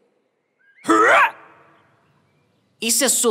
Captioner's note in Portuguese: soluço